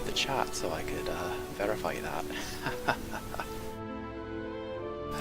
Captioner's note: laughs